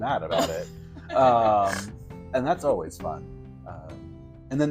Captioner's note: snorting laugh